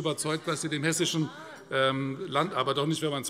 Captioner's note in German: Zuruf